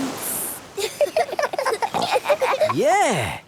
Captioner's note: giggling